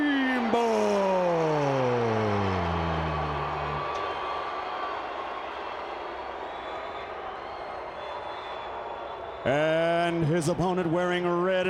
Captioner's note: crowd cheering